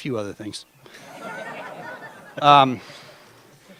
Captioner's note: laughter